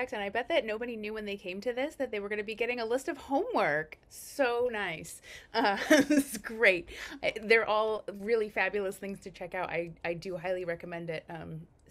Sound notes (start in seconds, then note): 5.7 laughs